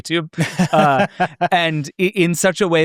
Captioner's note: laughs